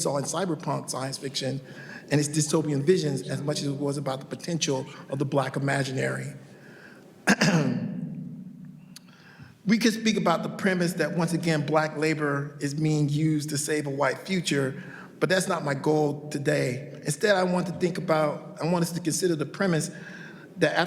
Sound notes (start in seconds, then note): 7.2 clears throat